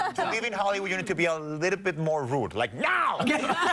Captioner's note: laughter; laughter